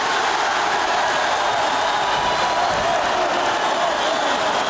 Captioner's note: audience cheering